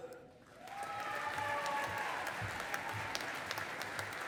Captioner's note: audience applauding